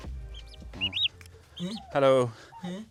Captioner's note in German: Zwitschern